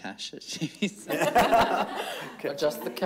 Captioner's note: everyone laughing